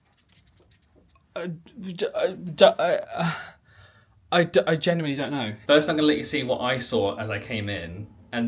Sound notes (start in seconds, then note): 2.8 spluttering